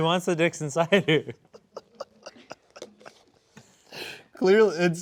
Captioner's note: both laughing